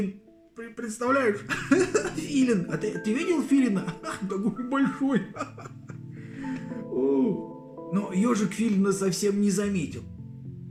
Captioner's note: laughing